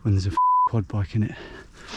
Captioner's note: beep